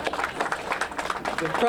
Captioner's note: applause